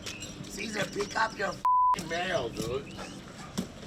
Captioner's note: beep